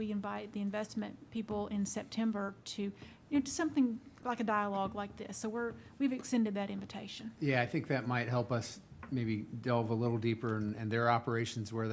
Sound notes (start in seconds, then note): none